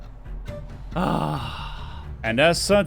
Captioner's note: heavy sigh